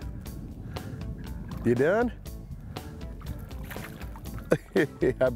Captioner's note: chuckles